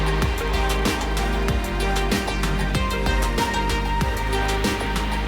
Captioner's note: audience applauding; upbeat music